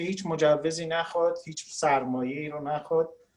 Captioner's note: speaking Farsi